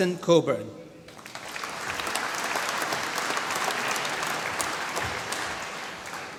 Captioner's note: applause